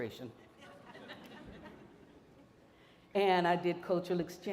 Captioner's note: audience laughing